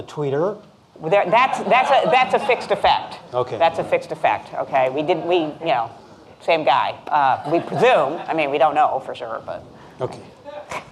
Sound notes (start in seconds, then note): 4.3 laughing